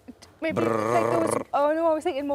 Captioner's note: Tom makes whirring sound